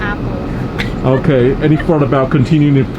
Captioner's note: laughs